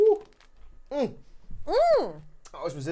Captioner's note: groaning